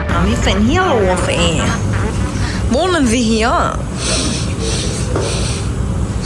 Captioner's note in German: schnauben